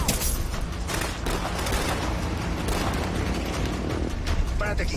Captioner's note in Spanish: Disparos